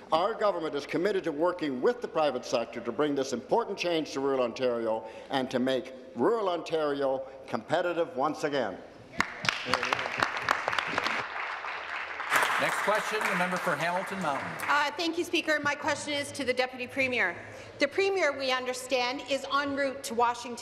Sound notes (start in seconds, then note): 11.7 applause